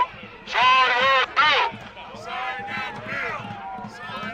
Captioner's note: chanting